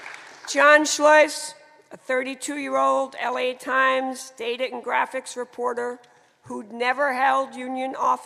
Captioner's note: applause